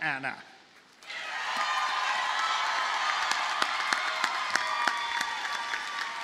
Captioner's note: audience cheers and applauds